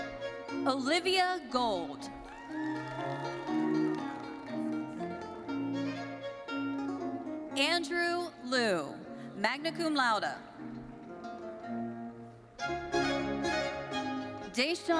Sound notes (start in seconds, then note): 2.2 audience cheering; 10.2 bright thoughtful music continues